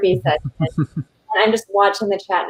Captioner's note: chuckles